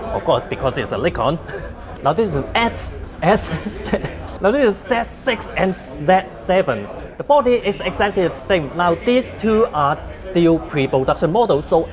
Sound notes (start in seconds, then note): 3.7 laughs